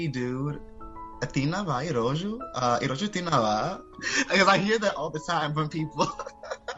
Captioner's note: laughing